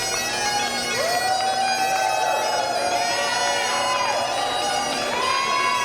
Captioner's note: cheering